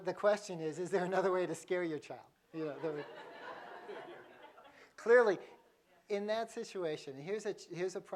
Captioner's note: laughter